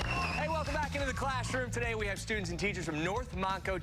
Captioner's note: cheers and applause